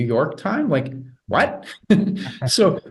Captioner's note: chuckles softly; laughs